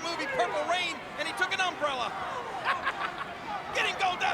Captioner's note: laughing